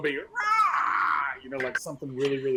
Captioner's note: mimicking squawking